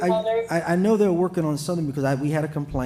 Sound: ~audio distortion~

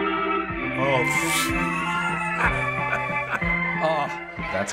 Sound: laughs

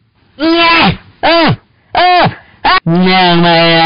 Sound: pain noises

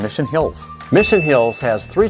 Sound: bell dings

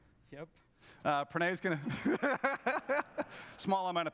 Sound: laughs

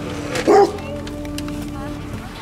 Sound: bark

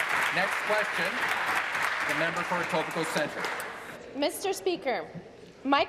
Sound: applause

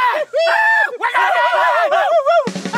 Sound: whooping and yelling

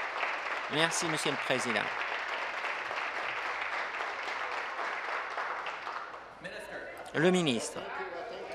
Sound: applause

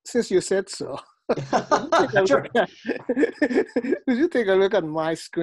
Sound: laughing

